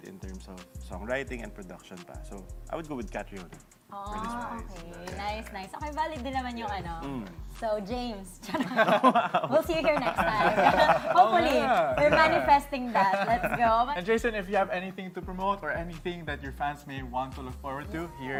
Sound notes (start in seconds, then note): 8.5 chuckles